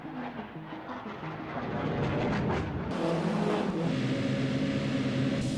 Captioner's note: car engines roaring